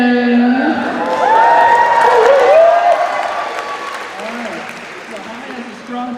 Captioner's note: cheers and applause